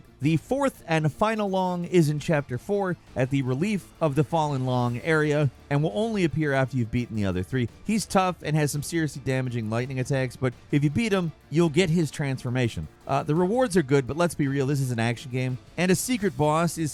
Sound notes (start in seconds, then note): none